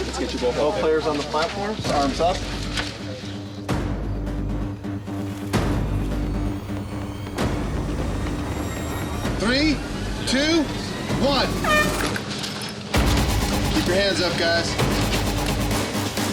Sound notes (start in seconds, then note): 3.7 dramatic music; 10.6 horn blows